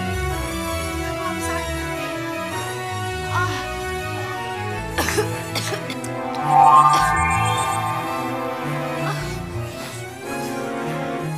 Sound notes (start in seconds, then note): 4.9 Lupita coughs